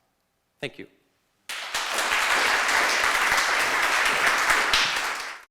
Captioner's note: applause